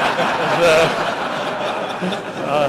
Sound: laughter

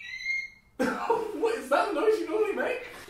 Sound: laughter

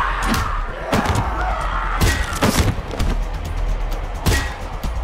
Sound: zombies grumbling; metal clanging

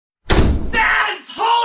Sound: boom

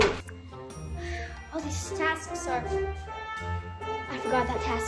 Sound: sighs

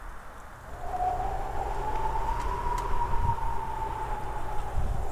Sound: whooshing of wind

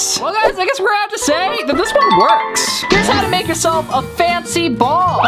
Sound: none

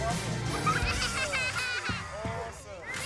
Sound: children laughing

